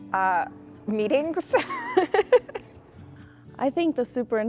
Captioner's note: laughs